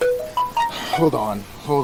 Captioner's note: phone chiming